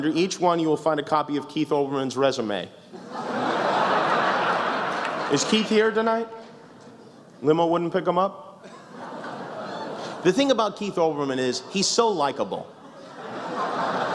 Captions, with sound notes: Under each one, you will find a copy of Keith Olberman's resume. [laughter] Is Keith here, tonight? Limo wouldn't pick him up? [laughs] The thing about Keith Olberman is, he's SO likable.